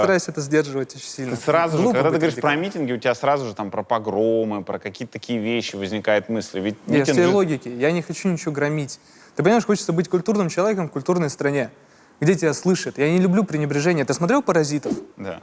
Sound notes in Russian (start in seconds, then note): none